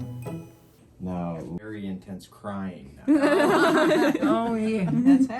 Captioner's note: women laugh